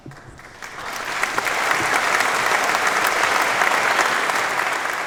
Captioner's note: applause